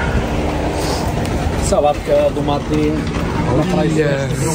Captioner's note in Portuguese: homem fala em outro idioma